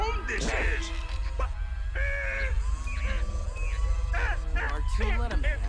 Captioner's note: Yoda groaning